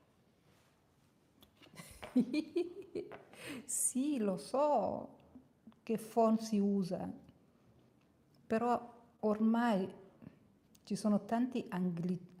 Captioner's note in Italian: risate